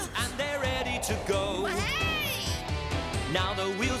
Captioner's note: all whooping